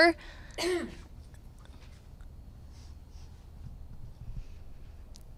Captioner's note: clearing throat